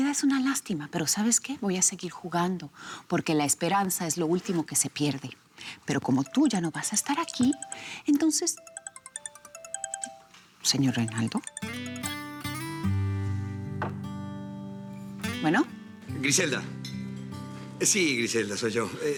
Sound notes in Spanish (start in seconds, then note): 9.2 Suena un celular